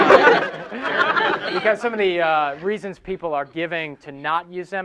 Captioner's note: laughing